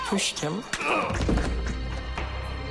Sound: grunts

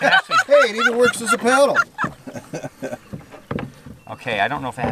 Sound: laughter

